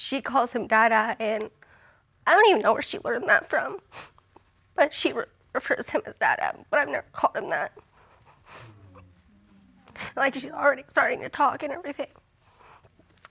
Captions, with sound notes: 'cause she calls him "Dada" and... [tearfully] I don't even know where she learned that from. But she refers to him as Dada, but I've never called him that. [audience exclaiming] [sniffling] Like, she's already starting to talk and everything.